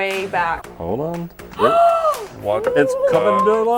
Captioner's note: gasps